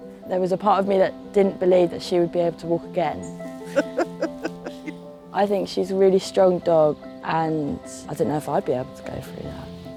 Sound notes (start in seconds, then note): 3.6 laughing